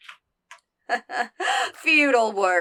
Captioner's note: laughs